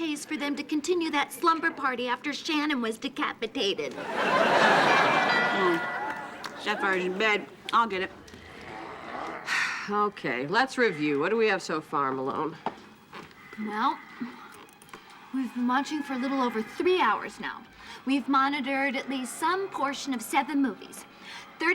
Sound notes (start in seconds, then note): 3.9 audience laughing; 4.8 doorbell ringing